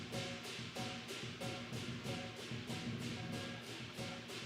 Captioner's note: none